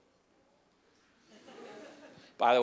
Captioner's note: laughter